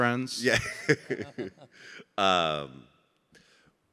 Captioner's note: chuckling